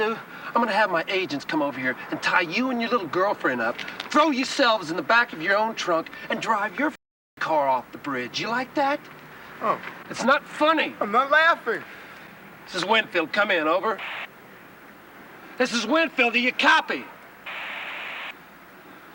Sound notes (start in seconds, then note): 13.9 radio static; 17.4 static